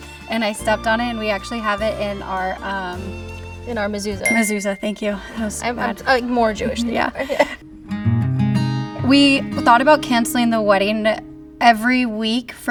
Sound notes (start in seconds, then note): 4.2 bell dings; 8.0 gentle guitar music